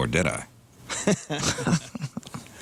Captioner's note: laughter